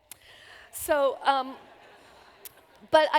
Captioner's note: laughter